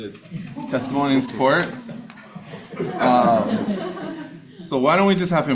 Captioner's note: audience laughing